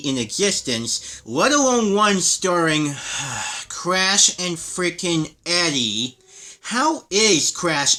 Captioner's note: sigh